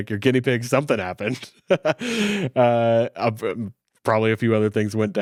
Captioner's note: laughing